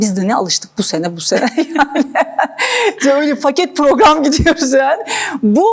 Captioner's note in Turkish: kahkaha